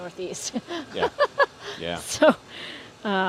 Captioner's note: laughing